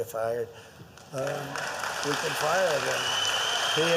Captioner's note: applause